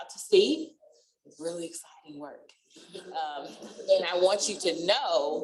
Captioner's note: laughter